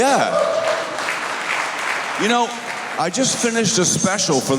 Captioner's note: applause